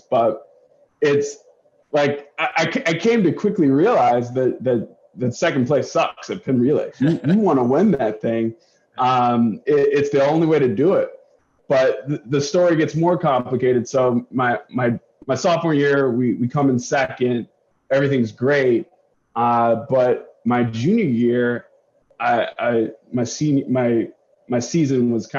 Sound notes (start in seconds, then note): 7.0 laughter